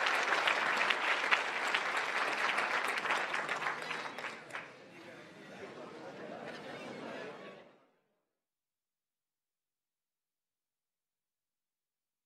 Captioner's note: applause